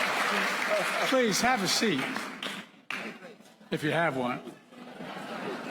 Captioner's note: applause